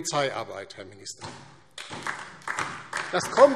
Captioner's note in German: Beifall DIE LINKE und SPD